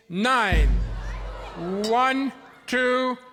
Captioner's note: audience oohs and ahs